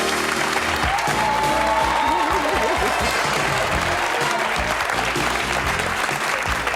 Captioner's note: audience applause; upbeat music